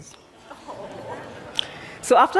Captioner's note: laughter